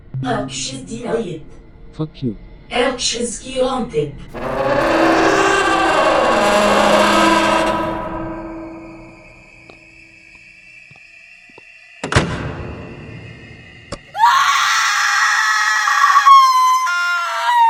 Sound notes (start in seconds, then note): 4.4 door opening; 14.1 Lightswitch screaming in pain